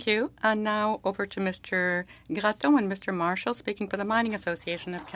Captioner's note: speaking French